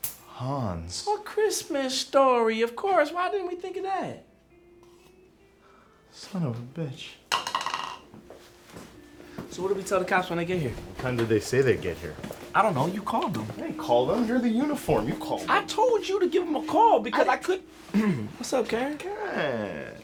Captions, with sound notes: Hans." - "A Christmas Story," of course. Why didn't we think of that? - Son of a bitch. (cup rattles) - So what do we tell the cops when they get here? - What time did they say they'd get here? - I don't know, you called them. - I didn't call them, you're the uniform, you call them. - I told you to give 'em a call because I could... What's up, Karen. - Karen.